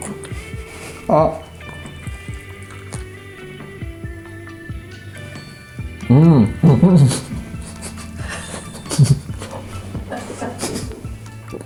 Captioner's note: Chicharrón crunches, along with laughs